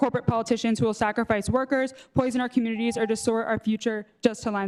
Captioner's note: beep